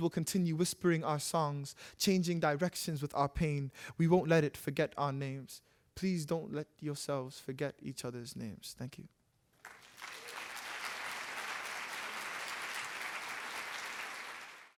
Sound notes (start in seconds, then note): 9.5 applause